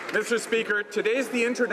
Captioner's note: applause